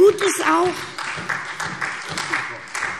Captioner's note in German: Beifall SPD